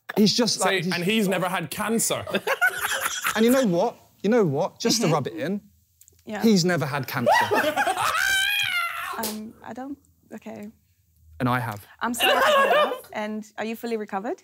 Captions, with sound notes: - I'm like, he's just like. - Say and he's never had cancer. - And you know what? You know what? Just to rub it in. - Yeah. - He's never had cancer. (laughing) - I don't. Okay. - And I have. - And are you fully recovered?